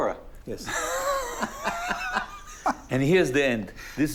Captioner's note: laughs